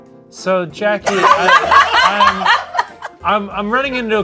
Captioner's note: people laughing